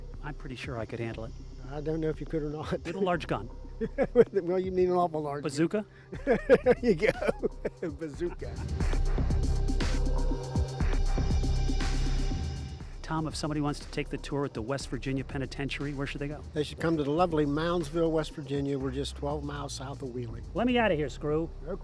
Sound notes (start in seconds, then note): 6.1 laughs